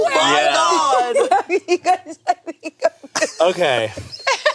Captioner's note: laughing